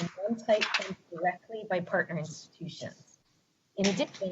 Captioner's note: distorted sound